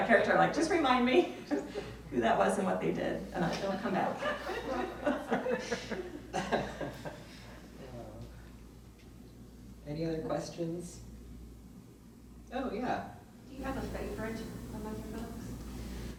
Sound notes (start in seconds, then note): 4.0 people laugh; 6.3 laughs